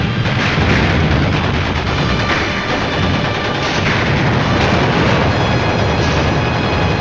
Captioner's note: dramatic music; guns firing